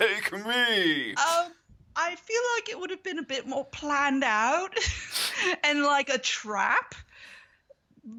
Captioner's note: laughs